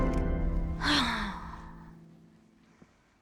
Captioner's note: clipboard slams; sighs